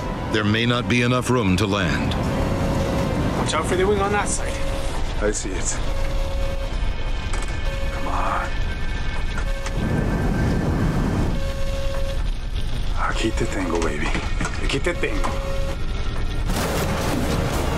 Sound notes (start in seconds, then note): 11.4 alarm sounding; 13.3 speaking foreign language; 17.5 triumphant music